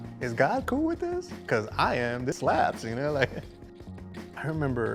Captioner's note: giggles